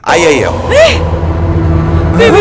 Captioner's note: Khushi exclaims